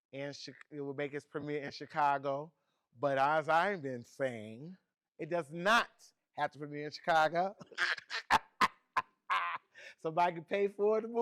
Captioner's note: laughs